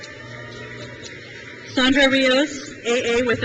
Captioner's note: crowd cheers